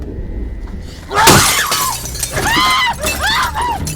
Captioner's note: window smashed open